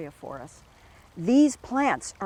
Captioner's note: water flowing